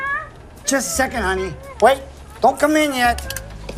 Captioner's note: Holly continues to hum